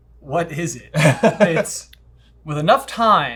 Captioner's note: laughs